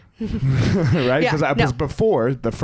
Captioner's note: both laugh